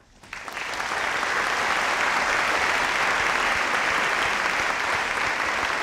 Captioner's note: audience applauding